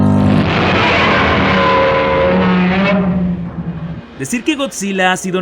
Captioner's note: Godzilla roar